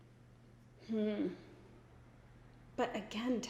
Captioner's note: hums